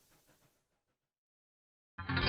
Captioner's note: training chugging away